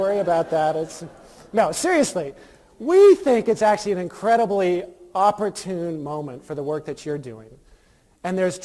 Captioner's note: laughter